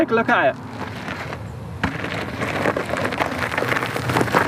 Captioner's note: gravel crunching